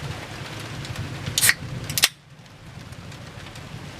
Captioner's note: beer can opening hiss